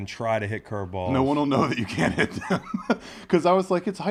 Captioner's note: laugh